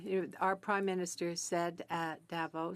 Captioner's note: speaking French